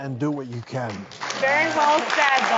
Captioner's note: applause